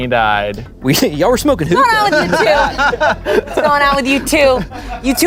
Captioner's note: everyone laughs